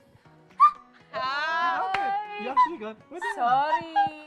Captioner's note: high-pitched squeaks; high-pitched squeak